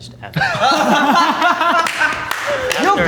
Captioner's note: laughing